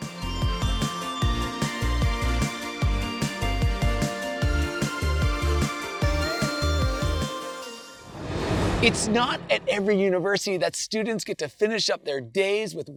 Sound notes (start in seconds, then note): 8.0 transition whooshes